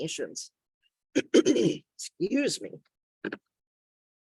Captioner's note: clears throat